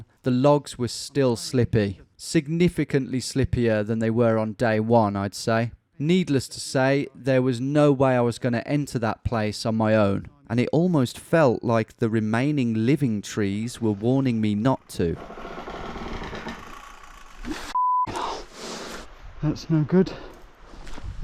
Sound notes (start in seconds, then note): 15.4 trees creaking; 17.7 beeping